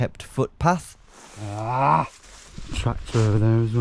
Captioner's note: grunts